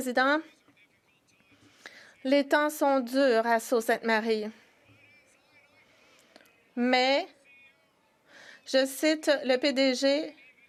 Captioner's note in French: voix de l'interprète